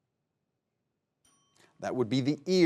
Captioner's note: bell dings